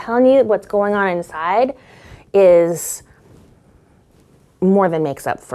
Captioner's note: deeply inhaling